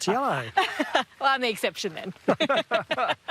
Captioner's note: all laugh; laughs